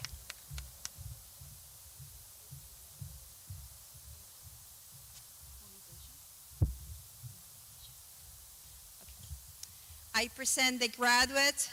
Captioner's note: clapping